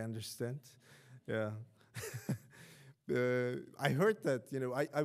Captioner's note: laughing